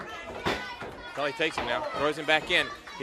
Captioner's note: crowd cheering